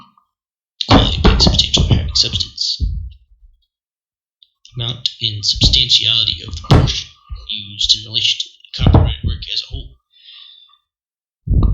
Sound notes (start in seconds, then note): 6.6 bang